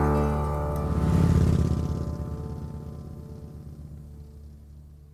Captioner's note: motorbike roaring